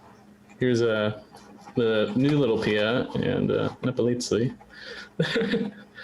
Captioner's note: laughs